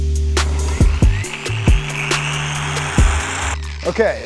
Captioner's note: polisher revving